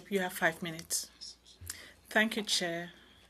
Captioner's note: speaking in French